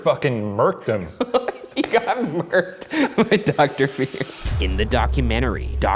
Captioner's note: laughs